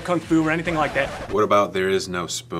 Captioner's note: record scratches